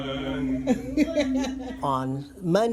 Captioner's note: laughing